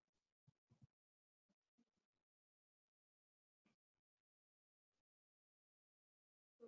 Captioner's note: pause